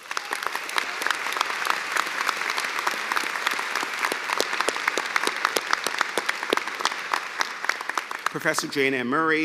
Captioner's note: cheers and applause